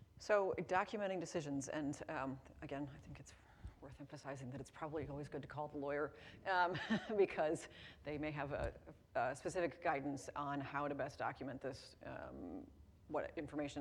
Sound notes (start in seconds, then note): 6.7 chuckles